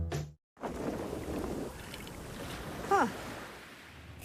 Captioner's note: beach ambience